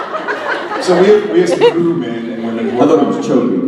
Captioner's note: extremely thick accent; audience laughs